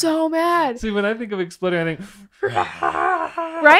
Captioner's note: growling sound